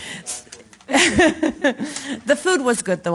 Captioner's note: laughing